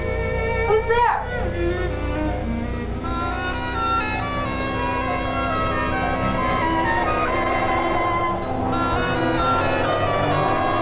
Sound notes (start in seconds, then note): 2.1 eerie music; 7.6 wind howling